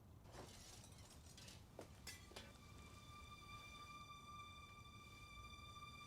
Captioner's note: items clattering faintly; slow tense music